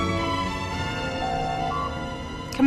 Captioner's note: door Chime